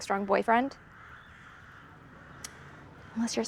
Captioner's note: crows cawing